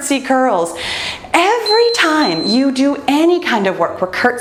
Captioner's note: timer beeps